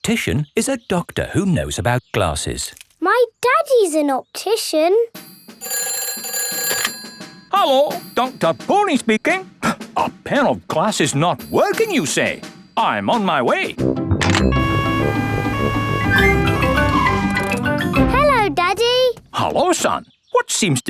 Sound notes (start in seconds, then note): 5.2 ringing; 14.5 siren wailing